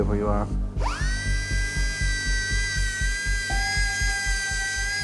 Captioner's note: drill machine buzzing